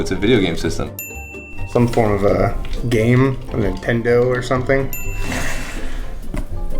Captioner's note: ding; ding